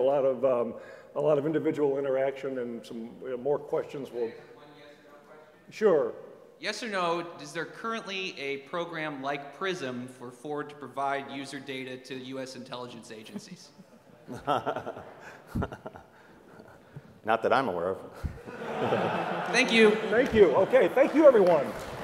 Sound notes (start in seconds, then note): 13.2 laugh; 18.3 laugh